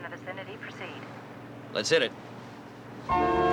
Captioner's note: sirens